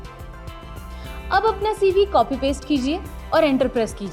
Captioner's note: non-english speech